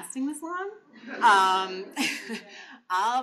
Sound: laughter

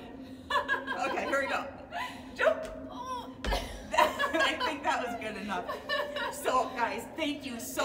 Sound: laughing

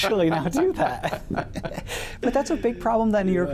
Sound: both laugh

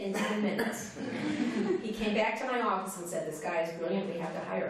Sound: laughter

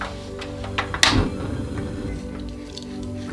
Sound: SFX: Turning on stove; SFX: Salting shrimp

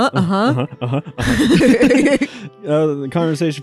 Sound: laugh

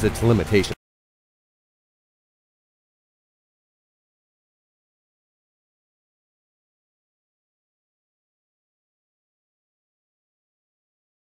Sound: silence

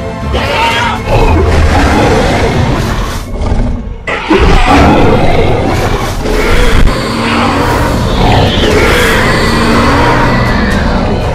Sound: Indominus Rex roars loudly

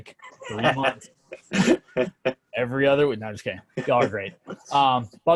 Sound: laughter

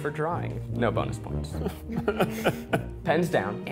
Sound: laughter

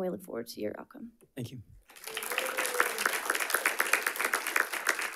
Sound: audience applauding

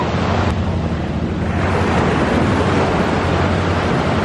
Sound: loud waves

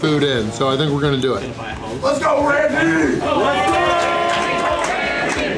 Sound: crowd

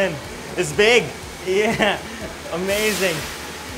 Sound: laughs

